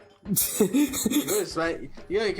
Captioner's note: chuckles